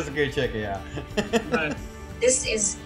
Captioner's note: laughing